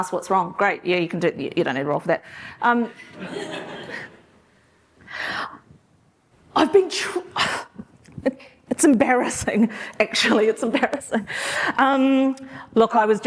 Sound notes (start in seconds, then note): 3.1 laughter